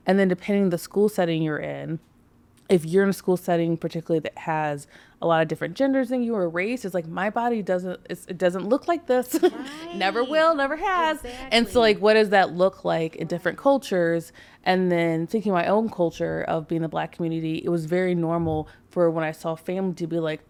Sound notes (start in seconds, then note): 9.3 chuckles